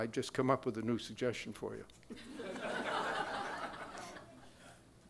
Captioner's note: crowd laughing